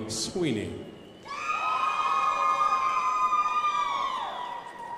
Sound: crowd applauding

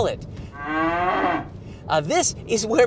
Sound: cow moos

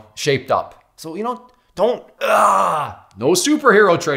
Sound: grunts

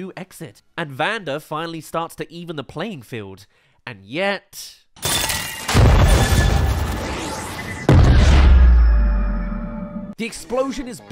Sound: explodes* *Blasts Powder

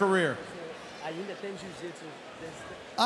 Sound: foreign

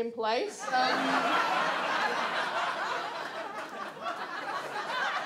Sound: audience laughs

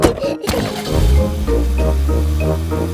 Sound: car engine starts; laughing

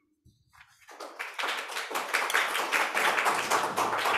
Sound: crowd applause

